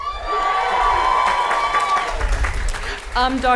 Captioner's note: applause & Cheering